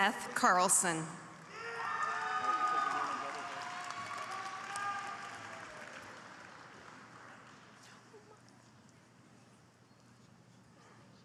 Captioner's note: applause